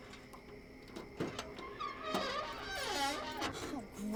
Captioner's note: trunk lid creaking